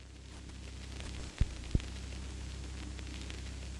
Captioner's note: none